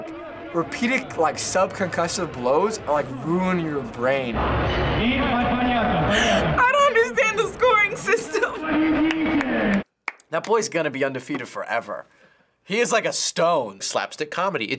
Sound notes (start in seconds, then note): 10.0 claps